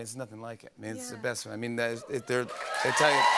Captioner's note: cheers and applause